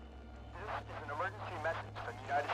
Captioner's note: man On Radio